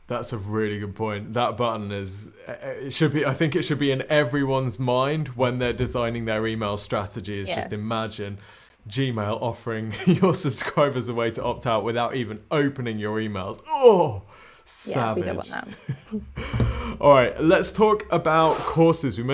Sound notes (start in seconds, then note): 15.6 laughs